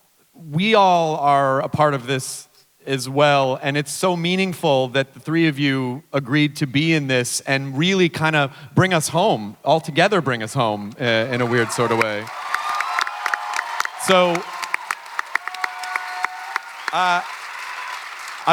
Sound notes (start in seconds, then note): 11.2 audience clapping and cheering; 14.5 clapping and cheering continue